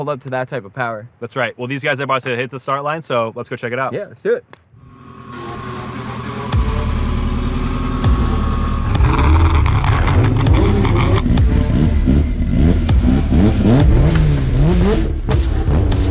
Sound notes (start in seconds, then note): 5.0 intense electronic music; 9.3 engines rev